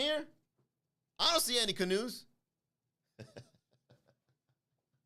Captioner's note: laugh